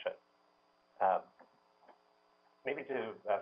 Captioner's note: pause